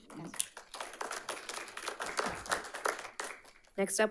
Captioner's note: audience applauding